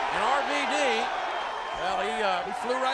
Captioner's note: crowd cheering